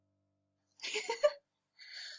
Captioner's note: chuckles